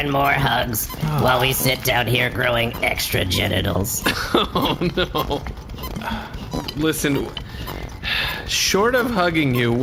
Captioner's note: sighs